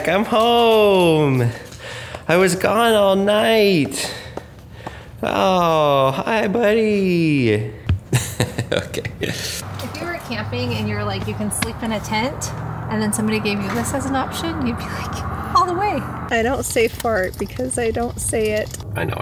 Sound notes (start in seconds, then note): 8.0 narrator laughs